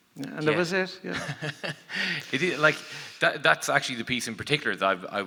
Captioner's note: laughs